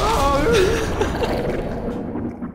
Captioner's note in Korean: 웃음